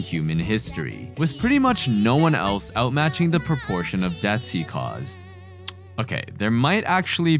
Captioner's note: click